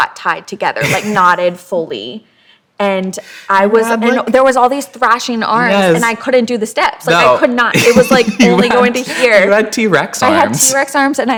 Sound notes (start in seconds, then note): 0.8 chuckles